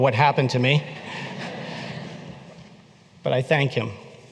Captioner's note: laughter